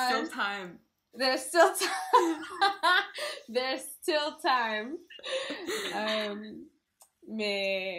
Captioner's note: laught